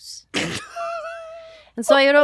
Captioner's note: laughing